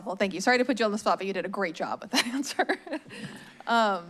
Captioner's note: laughs